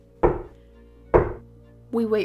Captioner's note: knock 1; knock 2